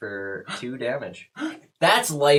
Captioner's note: gasps